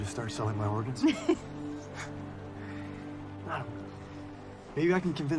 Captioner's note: chuckling